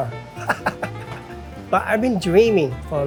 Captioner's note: laughing